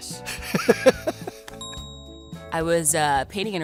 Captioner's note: laughs